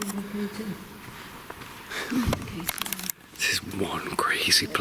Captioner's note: woman speaking distantly